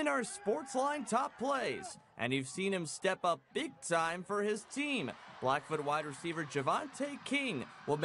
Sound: crowd cheering

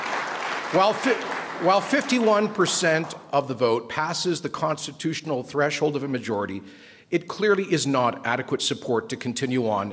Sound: applause

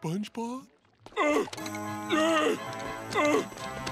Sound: grunting

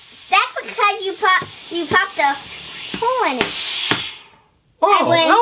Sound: voiceover

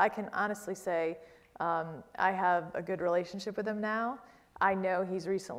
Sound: none

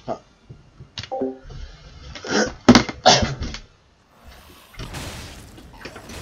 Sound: coughing and sounds of someone walking away

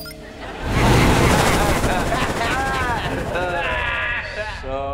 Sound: laughing

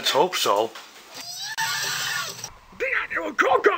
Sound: Pinky Screaming

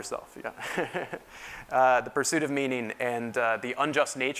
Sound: laugh

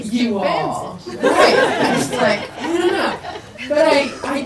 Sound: people laugh

